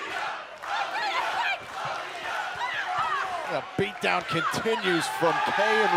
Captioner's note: fans chanting